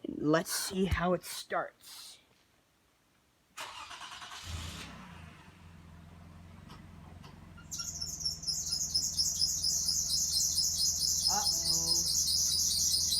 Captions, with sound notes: let's see how it starts (ENGINE STARTS) (ENGINE MOTOR SCREECHING) Uh-oh.